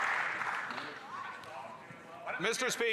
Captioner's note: some Applause